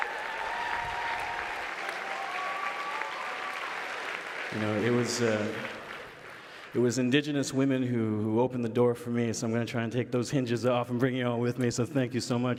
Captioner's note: applause